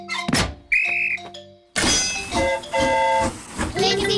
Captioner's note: blows whistle; train horn toots